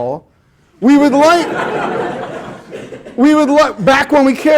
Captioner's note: students laugh